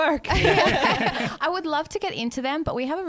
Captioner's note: laughing together